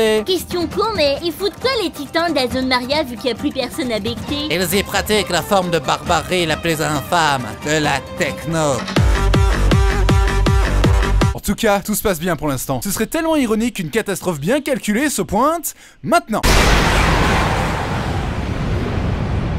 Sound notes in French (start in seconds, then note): 16.4 explosion